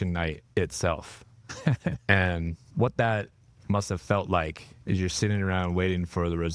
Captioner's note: laughing